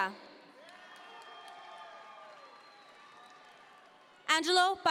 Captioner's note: audience members cheer